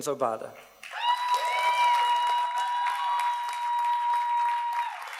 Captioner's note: audience cheers and applauds